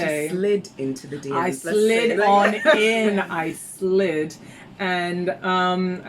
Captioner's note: laughs